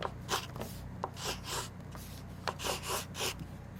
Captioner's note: pencil scratches